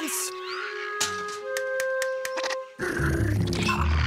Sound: clicking

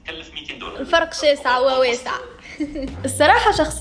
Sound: laughs

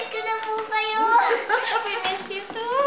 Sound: laughing

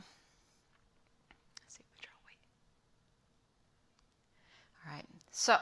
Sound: whispering

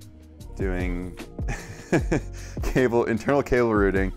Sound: laughs nervously

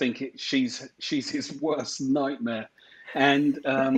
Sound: chuckling

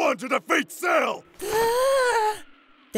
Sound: gasp!

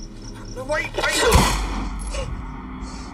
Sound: gun firing; heavy breathing

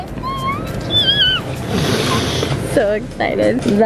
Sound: squeals

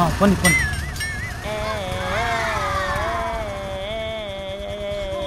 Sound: intensely mocking

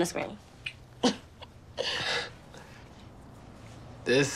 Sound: Jemma laughing

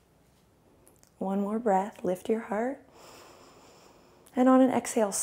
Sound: inhales

